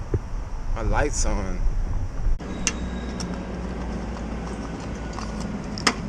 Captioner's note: gas nozzle holstering